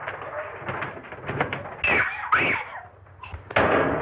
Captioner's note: wings fluttering; shrieking